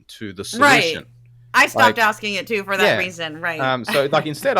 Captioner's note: laugh